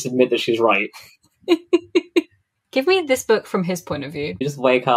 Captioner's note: laughs